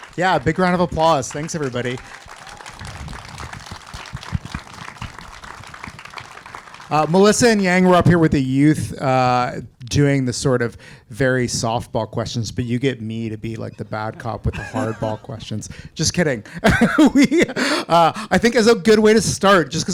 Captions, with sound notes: Yeah, big round of applause. Thanks everybody. (applause and cheers) Melissa and Yeej, were up here with the youth doing the sort of very softball questions but you get me to be like the bad cop with the hardball questions. Just kidding. We, I think as a good way to start just